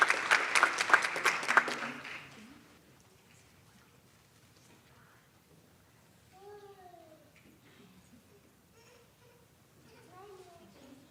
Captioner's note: applause